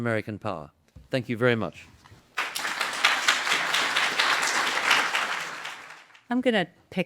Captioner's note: applause